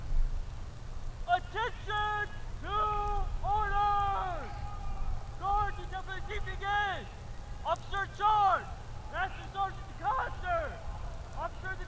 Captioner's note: shouted commands